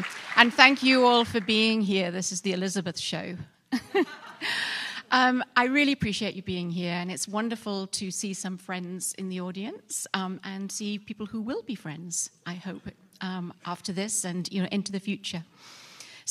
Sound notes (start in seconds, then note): 3.7 laughter